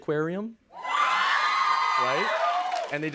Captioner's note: cheers and applause